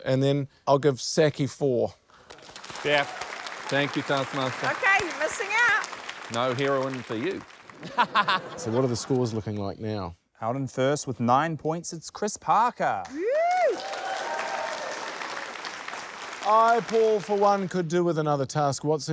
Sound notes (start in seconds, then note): 7.8 laughter; 14.6 applause, cheering